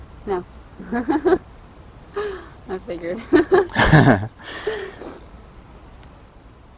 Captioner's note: laughs